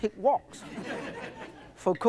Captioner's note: audience laughs